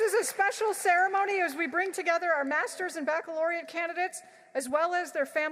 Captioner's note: applause